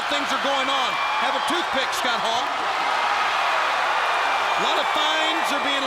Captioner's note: crowd cheering